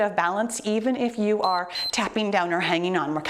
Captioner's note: timer beeps